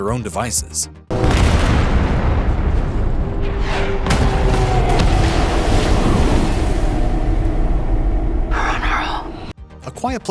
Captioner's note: explosions